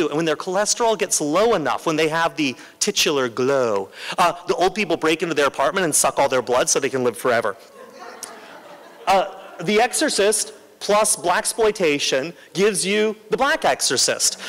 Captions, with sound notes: When their cholesterol gets low enough, when they have the titular glow, the old people break into their apartment and suck all their blood so they can live forever. [LAUGHTER] The Exorcist plus blaxploitation gives you The Black Exorcist,